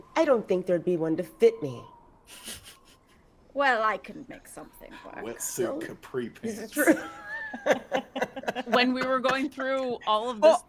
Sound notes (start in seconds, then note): 2.3 person chuckling; 6.4 people laughing